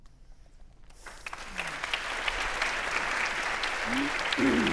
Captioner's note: audience applauding